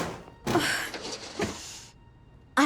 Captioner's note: groan